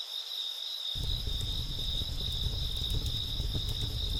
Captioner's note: fire crackling